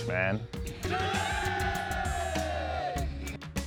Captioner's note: crowd cheers "Jullay!"